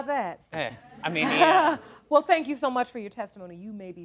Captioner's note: chuckling